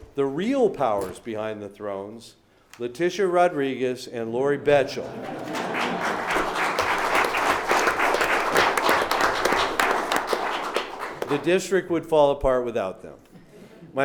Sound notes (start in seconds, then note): 5.1 clapping